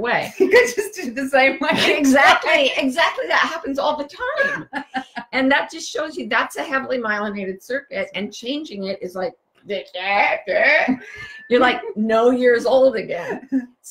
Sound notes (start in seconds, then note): 10.5 gurgling